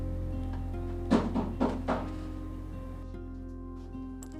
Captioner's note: rapid knocking; keys jangle